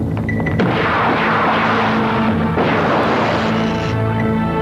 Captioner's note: explosion